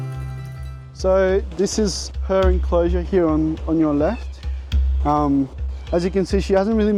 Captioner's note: cockatoo call